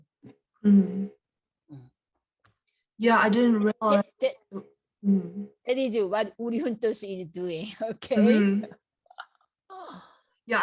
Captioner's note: laughs